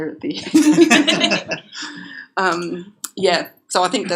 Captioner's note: laughter